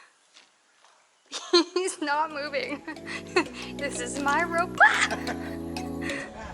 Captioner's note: screams